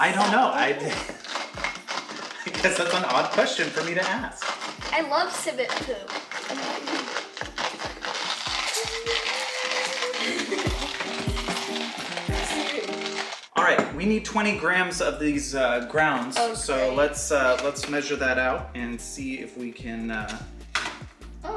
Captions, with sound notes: I guess that's an odd question for me to ask. - I love civet poop. (crepitating) (cool music) - All right we need 20 grams of these grounds--- - Oh great - So lets measure that out and see if we can---